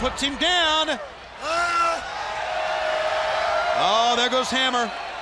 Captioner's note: crowd cheering